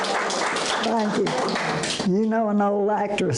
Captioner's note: audience applause